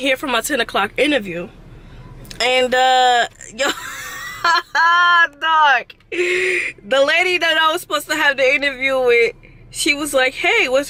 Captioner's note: laughs